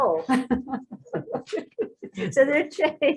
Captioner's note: laughs